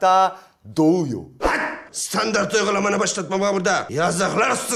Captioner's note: yells